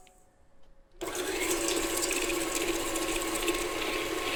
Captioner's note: mixer whirring